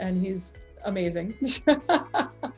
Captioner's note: laughs